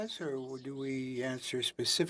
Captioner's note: speaking French